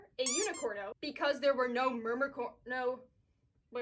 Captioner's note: squeak; stammering